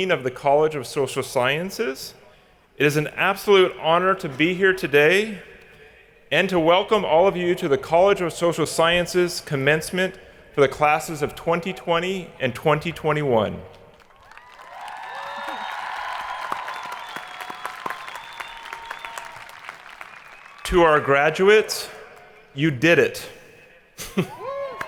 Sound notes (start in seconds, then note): 13.8 hands clapping; 14.0 people cheering; 24.2 people cheering; 24.7 hands clapping